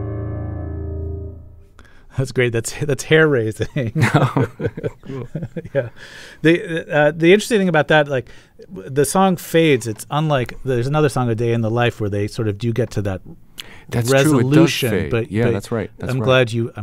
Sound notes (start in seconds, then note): 3.6 laughter